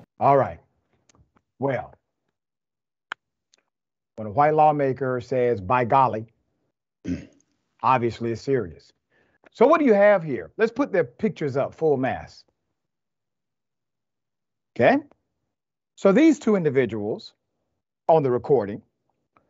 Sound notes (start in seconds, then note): 7.0 cough